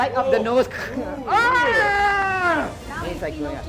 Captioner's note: screaming